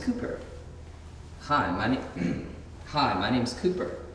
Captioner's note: clears throat